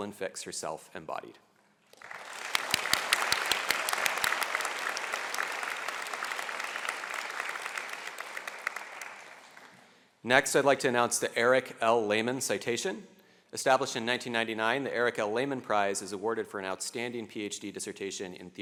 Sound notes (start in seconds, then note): 1.9 applause